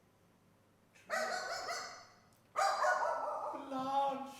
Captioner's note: dog barking